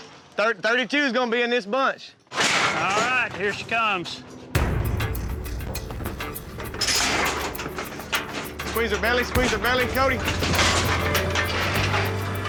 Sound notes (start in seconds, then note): 6.7 chute closes